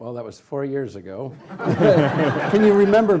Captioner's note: laughing